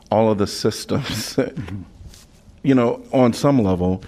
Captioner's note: laughter